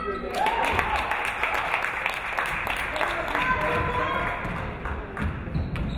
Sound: audience cheering; audience clapping

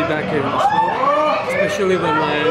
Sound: crowd shouting

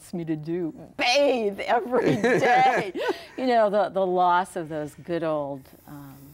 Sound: both laughing

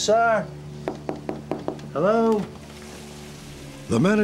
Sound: knocking

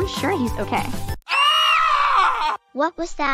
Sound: screaming

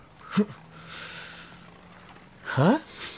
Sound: sniffs

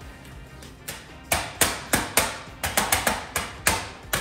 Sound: metal clanging

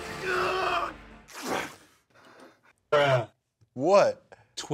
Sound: screaming; shirt rips

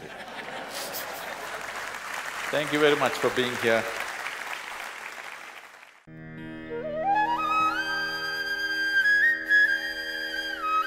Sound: laughter/Applause

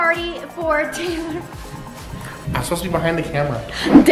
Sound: laughs

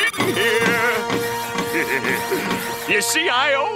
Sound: laughing

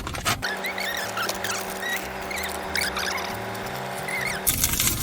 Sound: effect sound; เสียงเอฟเฟกต์

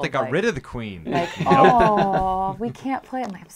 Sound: laughing

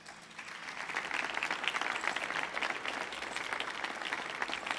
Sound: audience applauds

